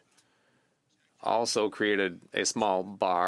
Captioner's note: speaking French